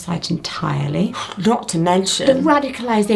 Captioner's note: scoffing